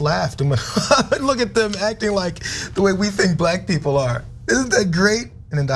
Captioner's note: laugh